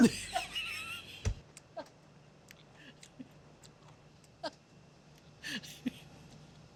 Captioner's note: laughter